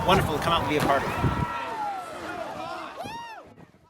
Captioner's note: cheering, whooping